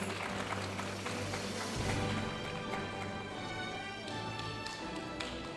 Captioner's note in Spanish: aplausos de la audiencia